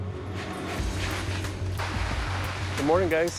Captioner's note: dramatic music; plastic rustling